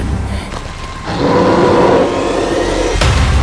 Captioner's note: roar